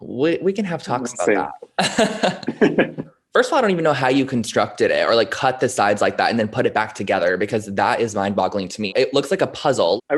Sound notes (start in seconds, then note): 1.6 both laughing